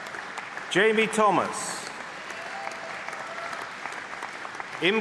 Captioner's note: applause